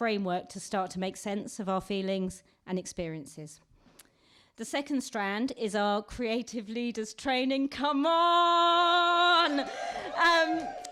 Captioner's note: whooping